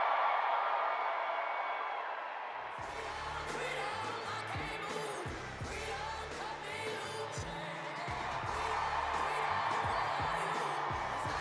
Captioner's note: applause